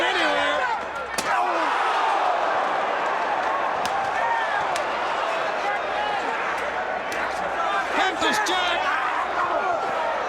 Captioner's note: crowd chatter